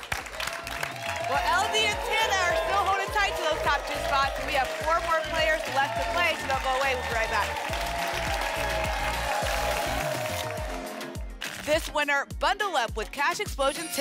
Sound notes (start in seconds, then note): 0.1 applause and cheering; 8.3 applause and cheering cont; 9.3 tickets shuffling